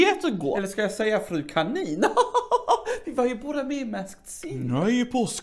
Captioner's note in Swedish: skrattar